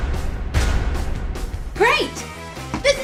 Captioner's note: loud thud